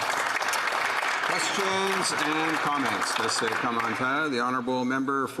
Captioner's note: some Applause